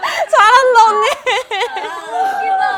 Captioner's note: cracking up; she's crying from laughing so much now